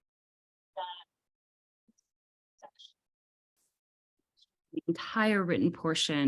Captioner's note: no audio